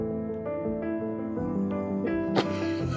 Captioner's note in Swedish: skrattar